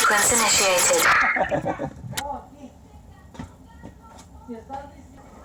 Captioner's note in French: la pompe grince; Le voleur rit